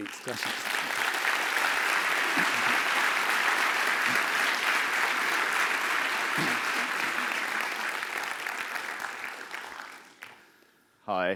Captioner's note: applause